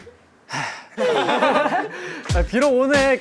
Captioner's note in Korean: 깊은 한 숨